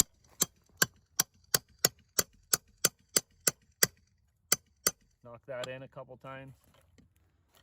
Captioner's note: hammering sounds